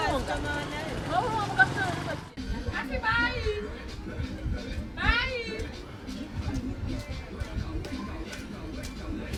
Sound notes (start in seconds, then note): 2.8 calling in non-English